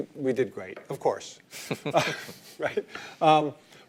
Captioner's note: laugher